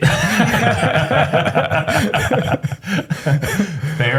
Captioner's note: laughter